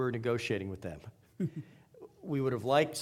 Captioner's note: chuckling